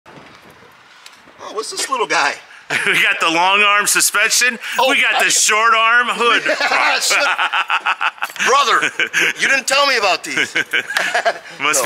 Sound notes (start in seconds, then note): 6.2 both laughing